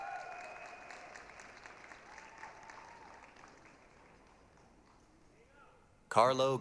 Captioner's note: applause, cheering